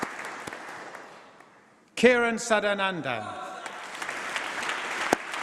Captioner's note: applause